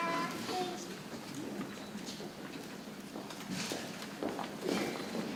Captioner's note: people chattering softly